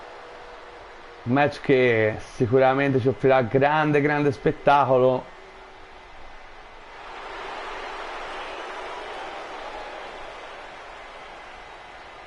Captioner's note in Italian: Applauso; Applauso